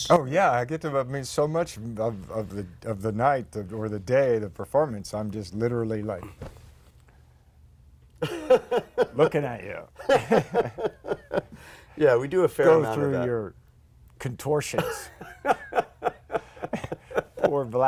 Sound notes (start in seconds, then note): 10.0 laughter